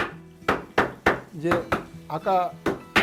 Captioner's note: hammering sound